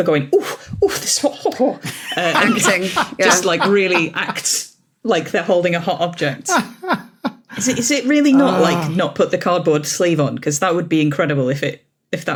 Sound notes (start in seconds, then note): 1.8 laughs heartily; 6.4 laughs